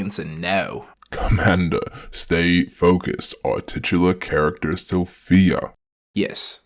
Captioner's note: chuckles